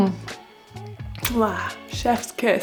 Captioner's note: smacking sound